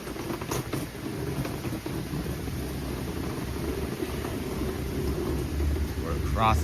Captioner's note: walking